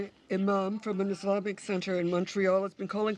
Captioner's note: speaking french